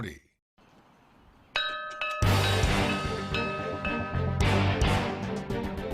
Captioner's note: bell dinging; intense orchestral music